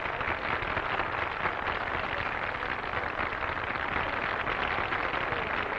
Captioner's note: applause